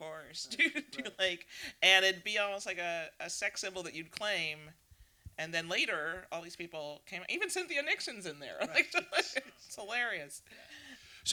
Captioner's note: laughter